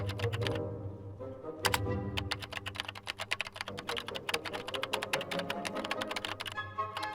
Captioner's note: dramatic music; tense classical music; keyboard tapping